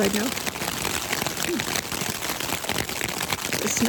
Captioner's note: laughs